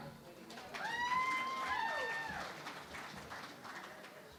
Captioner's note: cheering and Applause